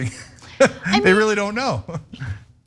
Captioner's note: laugh